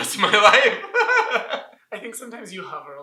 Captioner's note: laughter